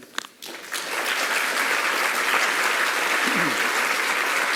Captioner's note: applause